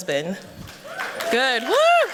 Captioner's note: applause